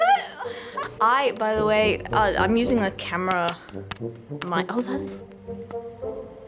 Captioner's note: tap tap tap